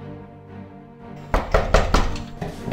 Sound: knocking

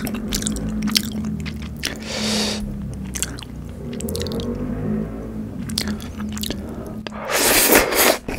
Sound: the sound of a motorcycle passing

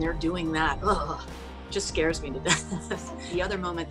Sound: shudders

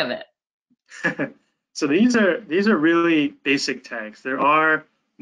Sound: chuckles

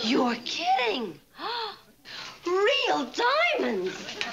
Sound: gasping

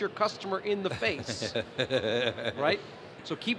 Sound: laughter

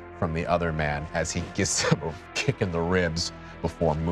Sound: gasps

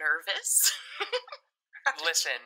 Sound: laughing

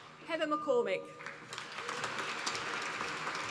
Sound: applause

